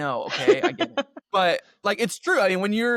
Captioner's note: laughter